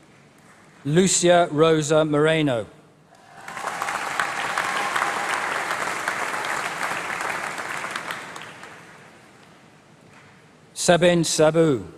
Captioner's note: applause; applause